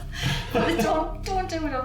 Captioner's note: laughs